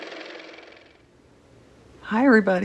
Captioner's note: car motor